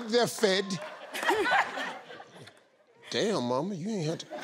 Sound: laughing

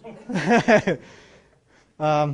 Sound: laughing

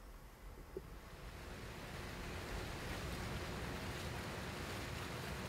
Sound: running water

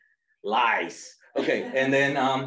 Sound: laughter

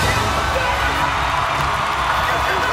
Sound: cheers and applause

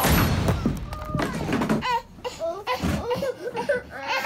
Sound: Sonido de niños asustados

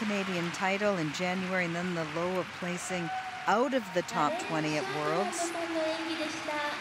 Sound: cheers and applause

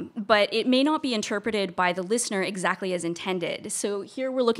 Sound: none

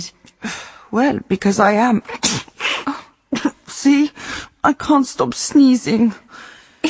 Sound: she sneezes

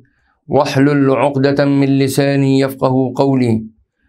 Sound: arabic

